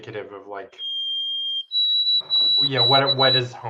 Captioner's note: sparrow squeaking